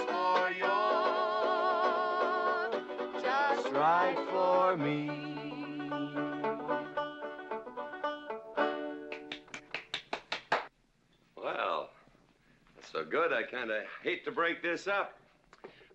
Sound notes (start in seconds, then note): 6.1 strumming strings; 9.0 clapping